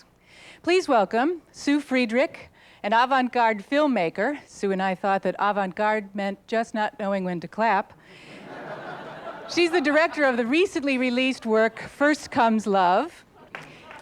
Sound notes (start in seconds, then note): 8.2 audience laughter